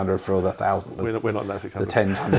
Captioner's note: laughter